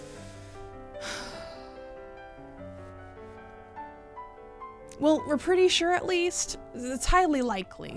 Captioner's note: sigh